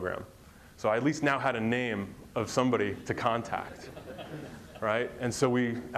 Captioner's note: crowd laughs